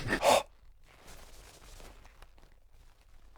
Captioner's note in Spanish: ruidos de pulido